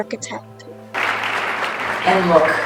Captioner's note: audience applauding